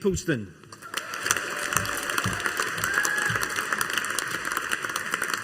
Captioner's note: audience applauding